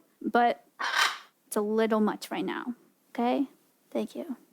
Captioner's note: parrot squawks